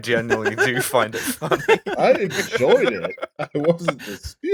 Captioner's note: laughter